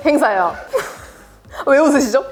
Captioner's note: laughs